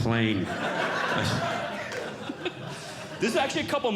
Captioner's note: audience Laughing